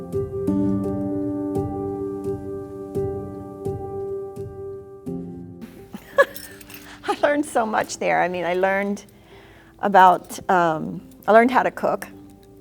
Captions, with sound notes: - (laughs) I learned so much there. I mean I learned how to cook.